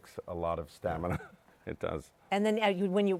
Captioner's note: laughs